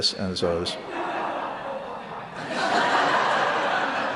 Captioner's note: laughter